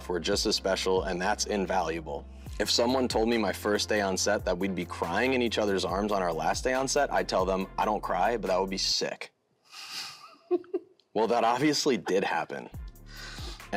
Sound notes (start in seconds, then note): 10.0 laughing